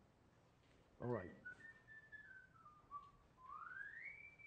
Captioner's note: whistling